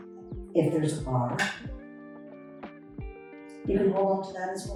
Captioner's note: metal chair clangs